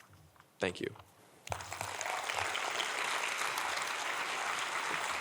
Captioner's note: audience applauding